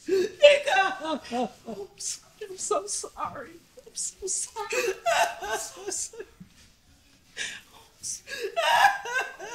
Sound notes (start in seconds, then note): 3.9 Trina sobbing